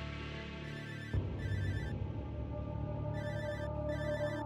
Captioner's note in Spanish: suena un celular cerca